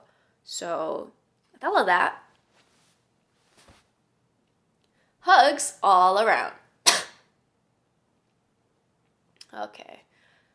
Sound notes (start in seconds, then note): 6.8 coughs